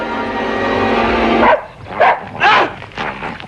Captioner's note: dog barks